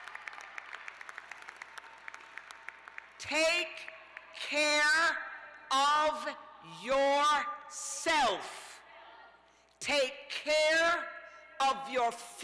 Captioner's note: cheers and applause